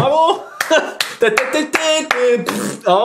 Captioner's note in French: Musique et bruit de pet